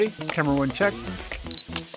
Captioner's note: camera chirps; camera clicks; camera shutter clicks